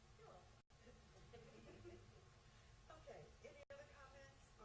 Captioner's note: chuckles